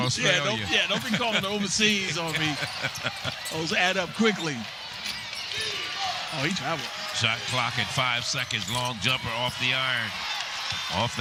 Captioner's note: laughter